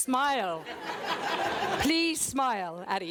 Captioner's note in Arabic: ضحك